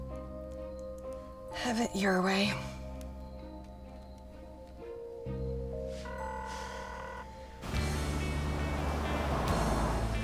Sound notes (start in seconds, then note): 6.1 line ringing; 7.6 country music playing